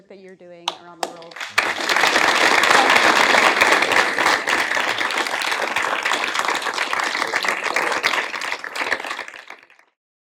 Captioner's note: applause